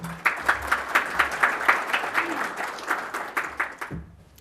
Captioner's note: audience applauding